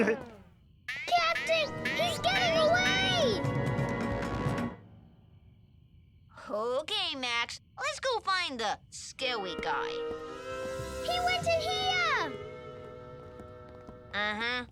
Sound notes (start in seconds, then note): none